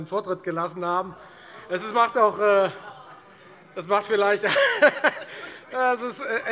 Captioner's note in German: Heiterkeit und Zurufe